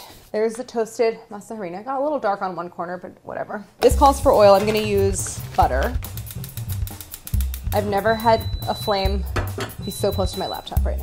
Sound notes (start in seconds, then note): 8.0 softly beeping